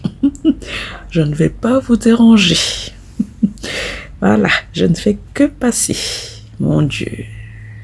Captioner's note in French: Rires